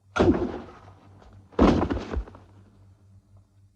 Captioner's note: thudding